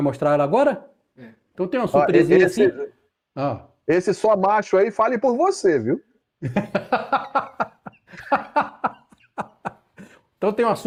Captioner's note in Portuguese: risadas